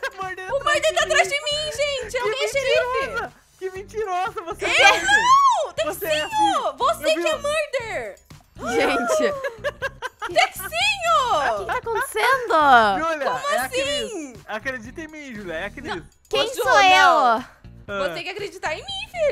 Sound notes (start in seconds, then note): 2.6 laughts; 8.6 laughter on the background; 11.2 laughing